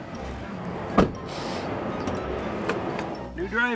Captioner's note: hissing like a cat